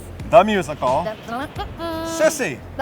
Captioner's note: humming